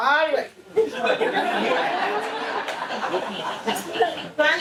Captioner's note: audience laughs